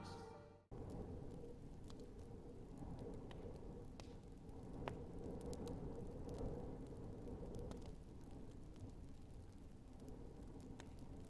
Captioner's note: fire crackling